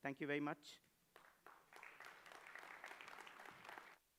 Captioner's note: applause